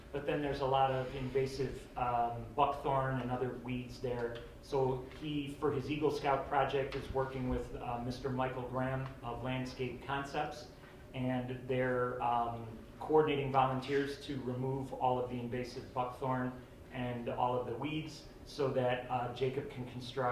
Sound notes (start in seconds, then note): none